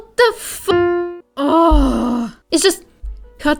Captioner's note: angry and frustrated groan